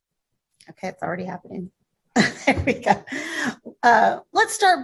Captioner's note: laughs